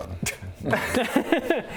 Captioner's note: tired laughs